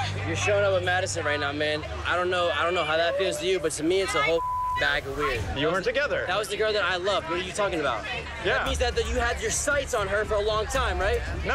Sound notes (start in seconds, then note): 4.2 beep